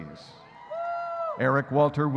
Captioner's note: audience cheering